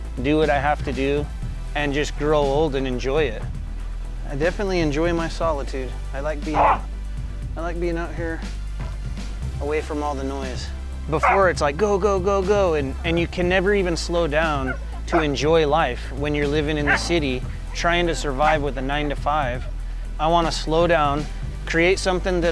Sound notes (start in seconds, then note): 6.5 dog growling